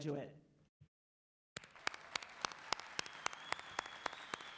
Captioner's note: clapping